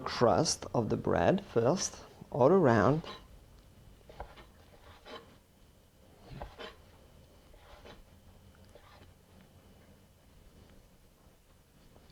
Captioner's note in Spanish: sonido cortando